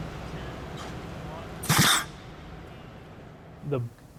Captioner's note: sound of compressed air release